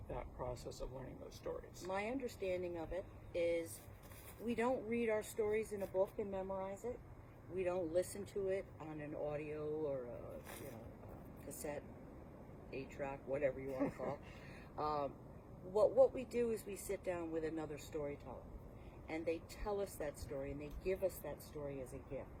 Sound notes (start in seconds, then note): 13.7 laughs